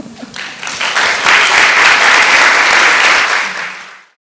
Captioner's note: chuckles; audience applauds